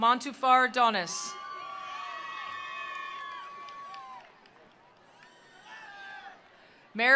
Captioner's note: attendees cheering; attendees applauding